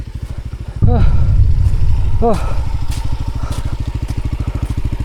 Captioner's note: the idle sounds... no unusual noise for now